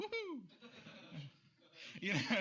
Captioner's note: laughter